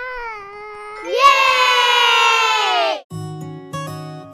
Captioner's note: family shouting together; relaxing music